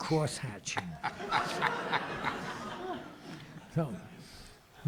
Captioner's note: audience laughs